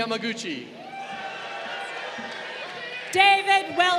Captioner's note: crowd cheering